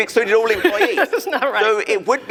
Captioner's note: laughing